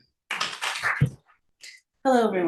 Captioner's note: audience applauds